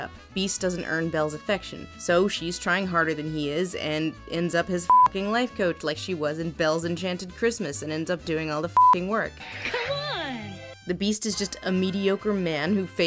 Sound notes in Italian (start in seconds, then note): 4.8 beep; 8.7 beep